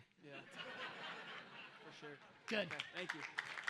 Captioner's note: audience laughs